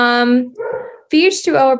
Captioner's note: dog barking